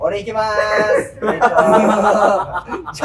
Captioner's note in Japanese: 笑い声